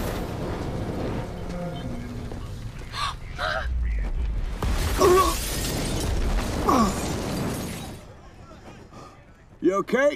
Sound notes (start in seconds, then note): 2.4 gasps; 4.4 grunts